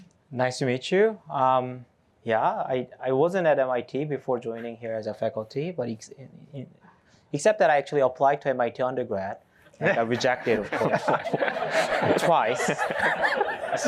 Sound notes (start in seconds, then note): 9.8 laughter